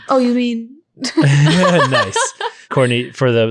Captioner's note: laughing